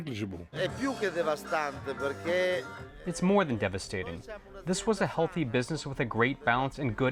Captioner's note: through translator